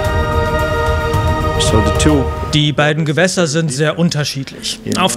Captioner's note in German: englisch